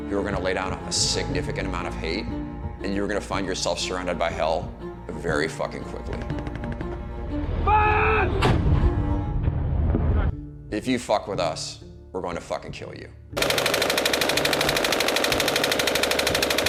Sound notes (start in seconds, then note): 8.5 blast cracks; 13.4 gunfire bursts